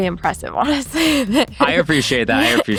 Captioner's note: laughs